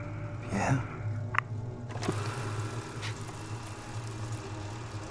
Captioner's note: film reel ticking